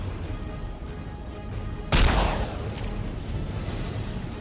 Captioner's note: dramatic music; gun firing